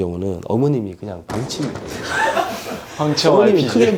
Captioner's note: boom